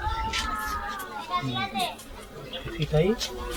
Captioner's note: sound of children playing